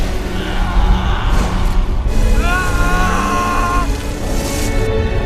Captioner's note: Anakin Skywalker screams in pain as he is immolated